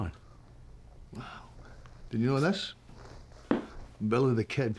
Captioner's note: scottish accent